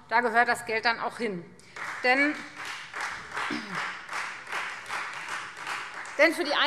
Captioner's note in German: Beifall Freie Demokraten